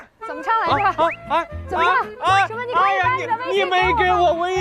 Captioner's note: sigh